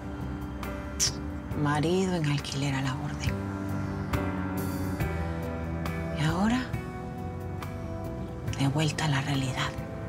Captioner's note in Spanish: Chasquido bucal